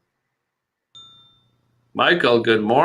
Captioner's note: ding